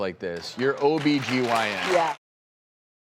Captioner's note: audience applause